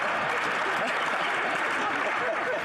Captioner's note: some Applause; some Laughter